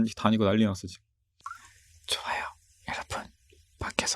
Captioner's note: gotten quiet for a while